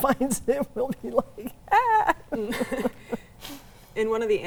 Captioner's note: laughs